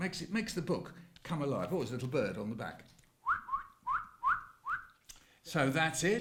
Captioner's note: bird whistle